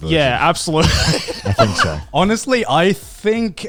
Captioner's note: everyone laughs